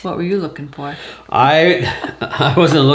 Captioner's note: laughing